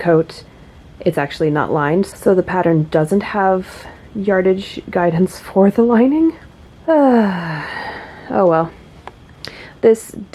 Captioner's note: bemused sigh